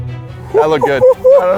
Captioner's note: laughs